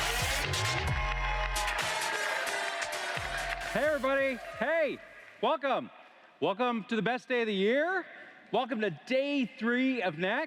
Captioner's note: cheers & Applause